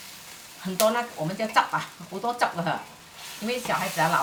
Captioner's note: Cantonese